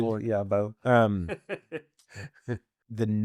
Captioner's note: both laughing